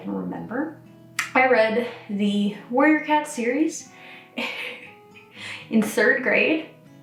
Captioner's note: chuckles